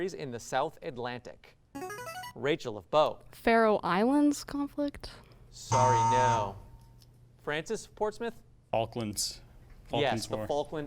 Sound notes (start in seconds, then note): 0.3 ring-in sound; 5.6 buzzer sound